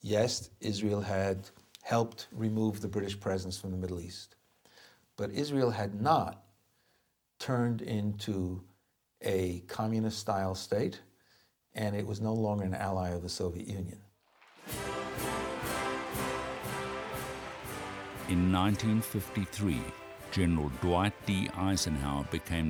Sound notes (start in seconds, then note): 14.2 applauding